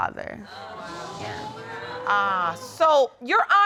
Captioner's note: audience exclaims